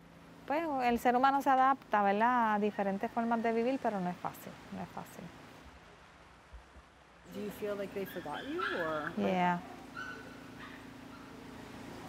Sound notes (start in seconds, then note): 5.7 speaking foreign language